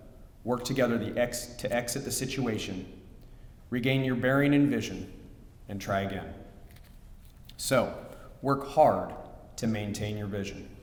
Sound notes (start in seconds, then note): none